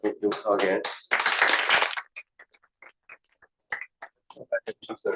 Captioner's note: applause